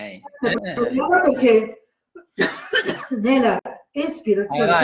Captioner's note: cough, cough